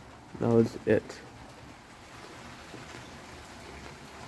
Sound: rain falling

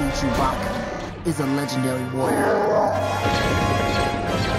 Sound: roars

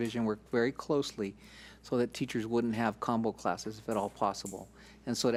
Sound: none

